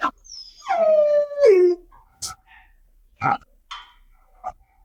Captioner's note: dog whining